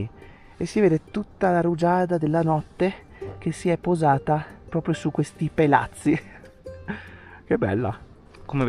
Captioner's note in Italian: risate